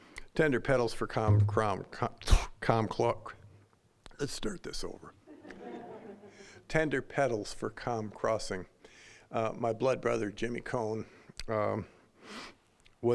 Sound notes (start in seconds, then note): 5.3 audience laughing